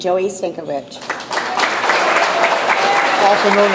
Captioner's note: audience applauds